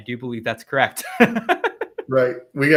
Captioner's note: laughs